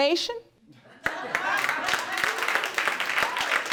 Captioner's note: audience applauding